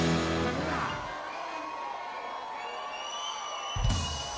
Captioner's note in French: cris d'enthousiasme